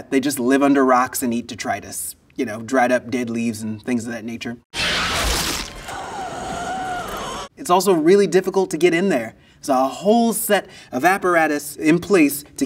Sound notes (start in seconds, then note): 4.7 creature squealing; 5.6 wheezing